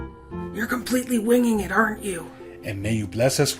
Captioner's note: whispering